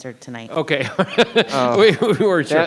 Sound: laughs

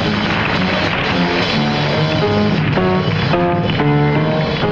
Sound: audience applauding; lively upbeat music

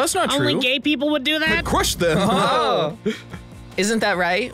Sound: laughs

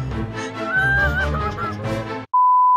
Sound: crying

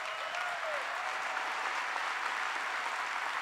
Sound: cheering and applause; applause

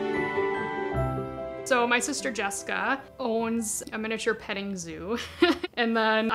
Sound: laughing

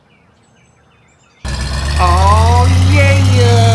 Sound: birds chirping; racing motor

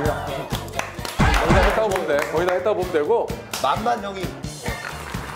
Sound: round of applause

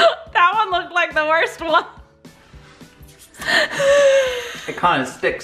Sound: laughs

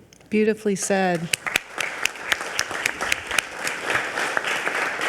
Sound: audience applauding

